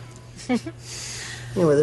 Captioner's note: Карла се изкиска